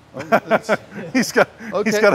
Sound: laughter

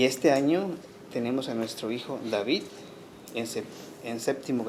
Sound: speaking Spanish

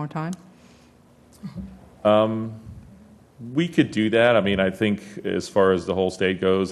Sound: laugh

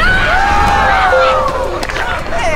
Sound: all screaming; ding

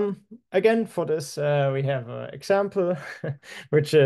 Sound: chuckling

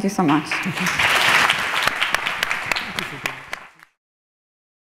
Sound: audience applauds

